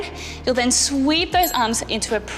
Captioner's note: bell chimes